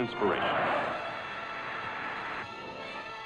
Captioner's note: shouts